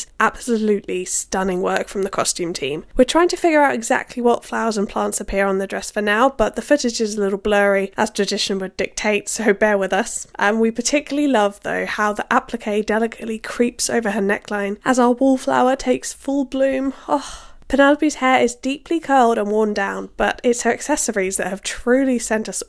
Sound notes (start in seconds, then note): 17.0 happy sigh